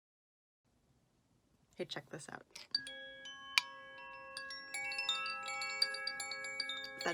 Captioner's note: windchimes